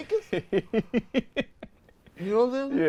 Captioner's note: laughs